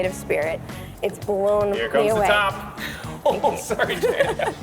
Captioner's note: laughing